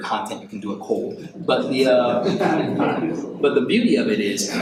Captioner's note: audience laughs